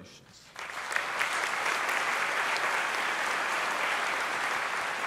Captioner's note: audience applauding